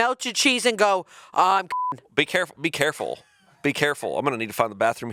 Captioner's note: beep